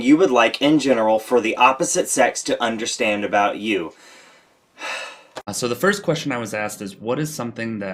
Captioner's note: sigh